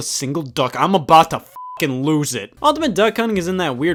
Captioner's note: beep